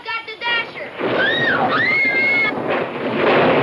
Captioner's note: thunder claps